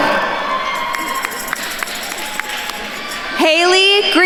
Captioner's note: attendees cheering and applauding